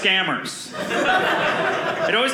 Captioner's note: audience laughing